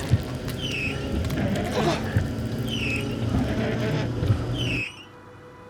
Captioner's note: intense music; windshield wipers squeaking; Walter gasps